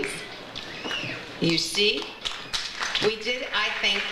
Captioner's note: audience applauds